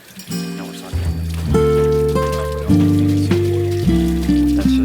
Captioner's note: students murmuring